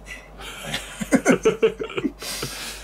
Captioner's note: laughter